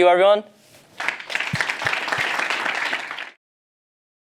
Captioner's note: applause